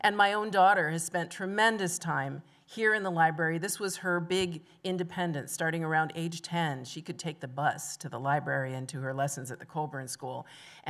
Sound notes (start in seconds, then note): none